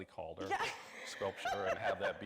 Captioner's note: laughs